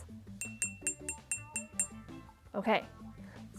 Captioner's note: jar tinking